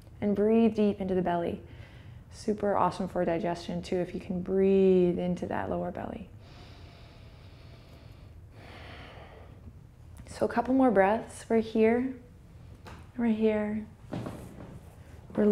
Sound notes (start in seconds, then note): 6.4 inhales and exhales